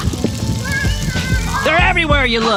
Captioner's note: squealing